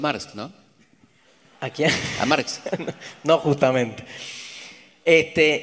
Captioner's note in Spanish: audience laughs; laughter